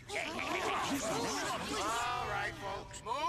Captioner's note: all chattering